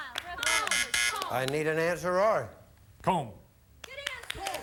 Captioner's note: buzzer sounds